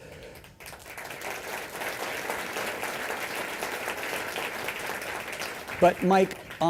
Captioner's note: applause